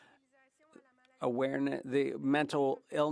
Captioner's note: speaking French